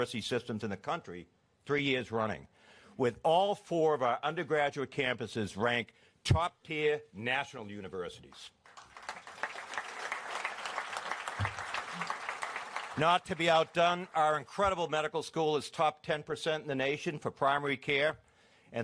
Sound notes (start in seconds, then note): 8.6 applause